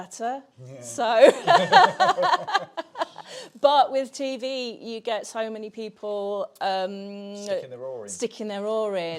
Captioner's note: laughs